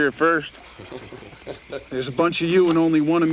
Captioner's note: gang members chuckle